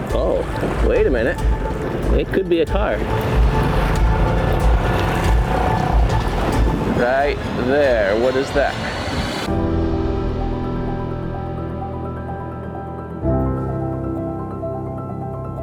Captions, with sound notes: Oh, wait a minute. It could be a car. (suspenseful music) (boat engine rumbling) Right there, what is that? (somber piano music begins)